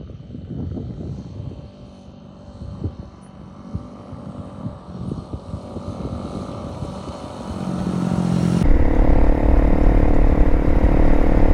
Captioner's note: engine sounds, faint at first then growing